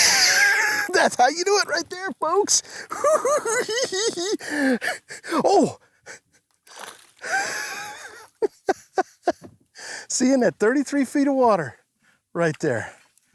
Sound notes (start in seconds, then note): 0.0 laughs; 2.8 giggles; 7.3 laughs